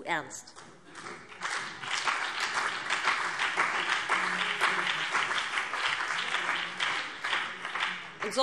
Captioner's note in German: Vereinzelter Beifall BÜNDNIS 90/DIE GRÜNEN und CDU